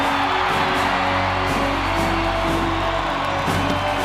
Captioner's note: crowd cheers